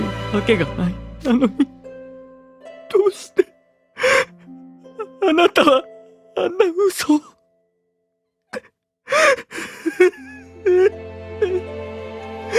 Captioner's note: cries